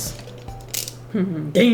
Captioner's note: blade clicks